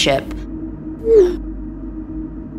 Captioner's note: notification Sound; ominous Tone